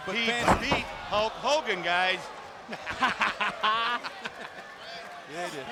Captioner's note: laughing